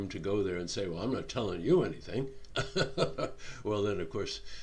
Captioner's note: chuckling